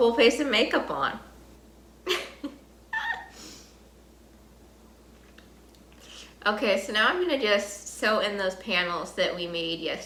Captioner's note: laughs